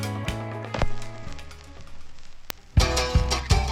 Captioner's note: record scratching; fast tempo folk music